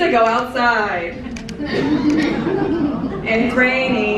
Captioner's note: audience chuckling